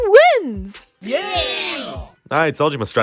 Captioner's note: cheering!